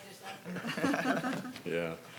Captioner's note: panel chuckling